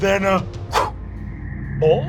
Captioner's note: growling; whooshing